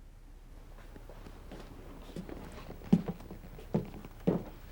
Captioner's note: footsteps